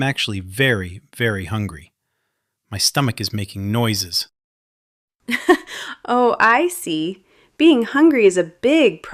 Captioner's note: laughs